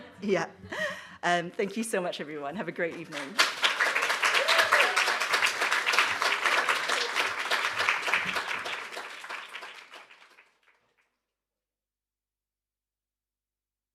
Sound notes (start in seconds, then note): 3.6 applause; 8.9 applause fades